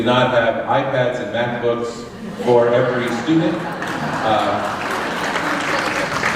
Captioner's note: laughter and applause